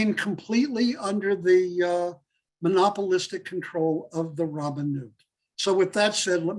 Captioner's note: Hebrew